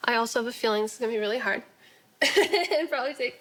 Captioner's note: laughing